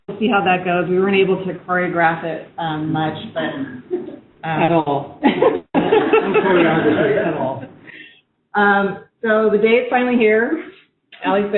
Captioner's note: laughter